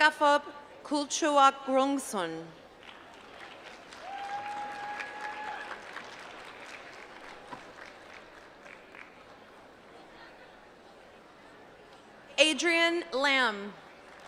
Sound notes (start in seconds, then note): 7.6 applause